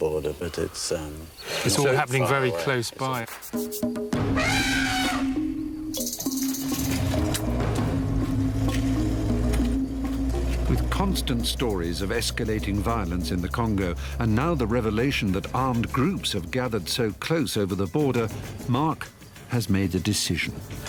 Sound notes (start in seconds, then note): 4.1 elephant trumpets; 6.9 mysterious African music